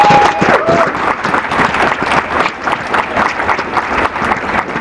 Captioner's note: applause